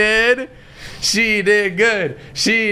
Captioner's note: chanting